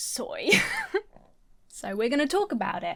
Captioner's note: laughs